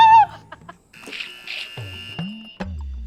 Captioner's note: laughs; buzzer pressed